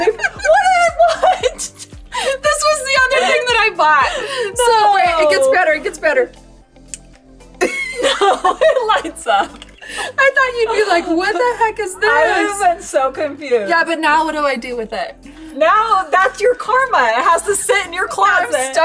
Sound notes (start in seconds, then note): 0.0 both laugh; 7.6 both laugh